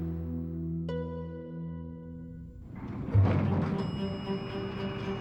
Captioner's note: elevator bell ringing